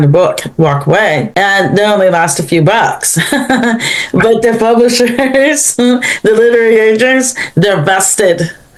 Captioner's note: laughs